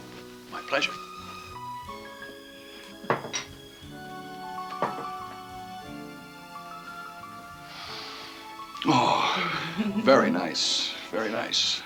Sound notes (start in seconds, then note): 6.9 Ginger chuckles; 6.9 Joe inhales deeply